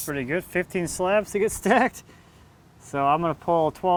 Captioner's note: laughs